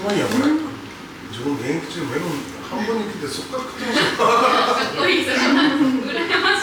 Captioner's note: laughs